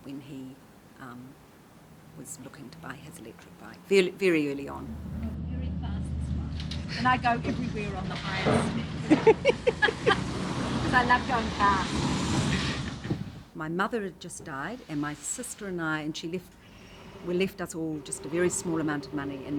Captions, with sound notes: when he was looking to buy his electric bike, very early on. (car engine revs) Very fast on this bike and I go everywhere on the highest speed. (laughing) 'Cause I love going fast. (car engine revs) My mother had just died and my sister and I and she left, we left that's all just a very small amount of money